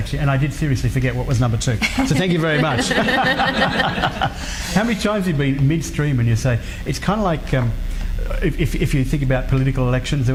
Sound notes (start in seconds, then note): 1.9 laughing